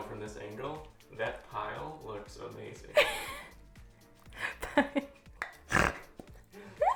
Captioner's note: laughs